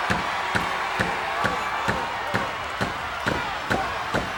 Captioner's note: crowd cheering; crowd stomping